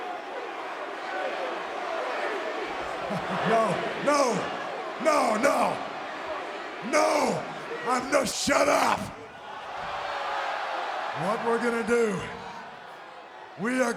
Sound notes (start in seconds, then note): 0.1 crowd cheering; 0.1 wrestlers chattering; 10.0 crowd vocalizing